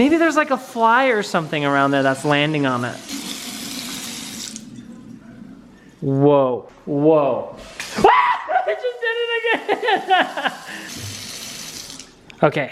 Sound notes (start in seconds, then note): 7.9 screams; 11.6 laughs